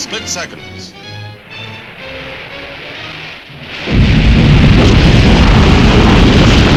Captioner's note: lively orchestral music; missile whooshing